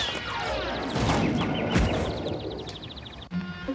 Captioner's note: crash, birds chirping